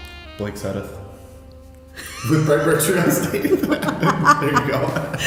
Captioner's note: laughs